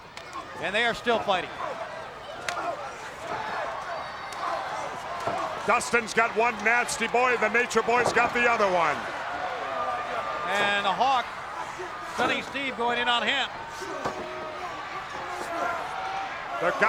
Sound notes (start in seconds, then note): 2.3 wrestlers grunting; 13.6 crowd yelling